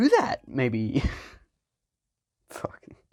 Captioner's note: chuckles